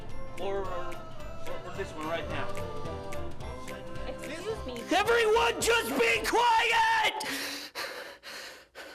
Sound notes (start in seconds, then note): 7.3 panting